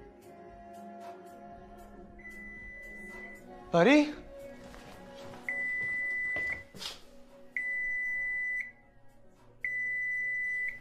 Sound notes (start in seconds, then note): 5.5 microwave beeping